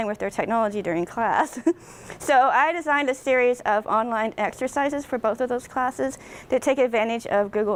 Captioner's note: laughs